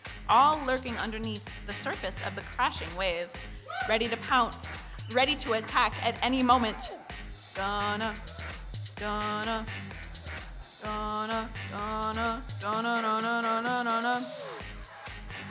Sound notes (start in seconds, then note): 7.7 sing-songy; 15.3 electronic dance music